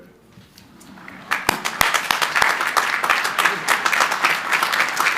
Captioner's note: crowd applauding